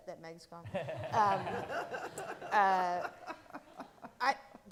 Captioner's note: all laughing